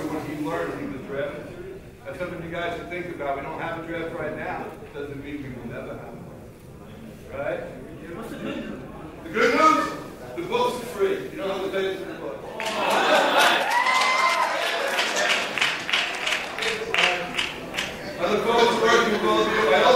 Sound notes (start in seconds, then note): 12.5 laughing; 12.5 audience cheering and applauding